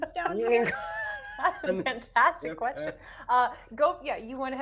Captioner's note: people chuckling